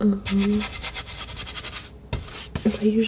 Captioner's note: tapping